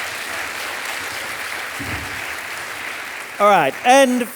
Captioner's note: audience applauding